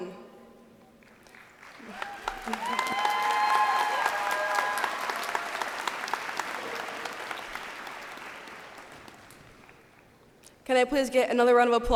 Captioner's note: cheers and applause